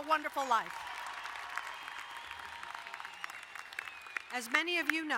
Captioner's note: crowd cheering and applauding